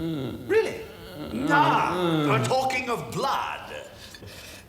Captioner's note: groaning